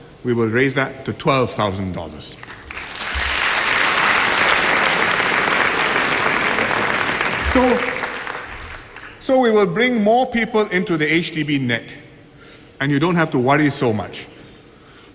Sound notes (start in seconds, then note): 2.4 applause